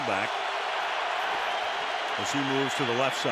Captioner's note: cheering